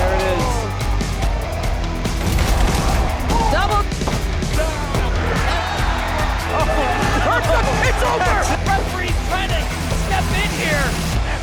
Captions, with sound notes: There it is. (gun fires) Double! Oh, it's over! Referee trying to step in here.